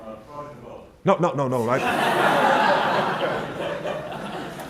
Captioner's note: crowd Laughs